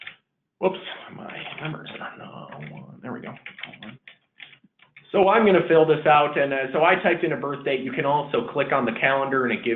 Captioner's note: typing...self talk